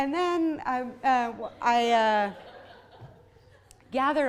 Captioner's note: audience laughs